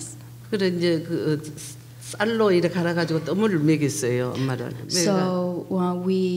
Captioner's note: speaking foreign language